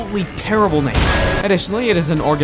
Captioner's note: clang